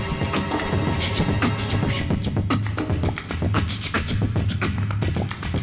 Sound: beatboxing

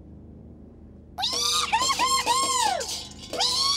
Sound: squealing

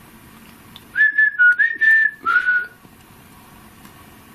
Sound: whistles

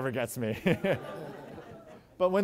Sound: laughter

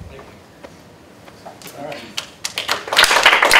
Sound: applause

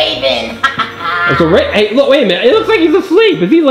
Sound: laughing

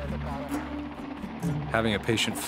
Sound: air traffic conversation

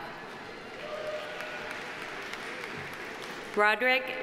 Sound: audience applauding

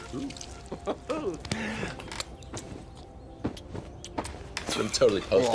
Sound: kissing

